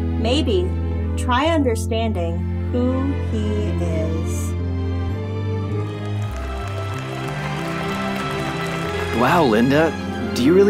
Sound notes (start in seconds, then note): 5.8 clapping; 5.9 cheering